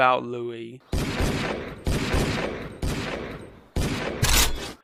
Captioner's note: gunshots